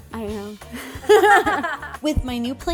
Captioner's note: laughing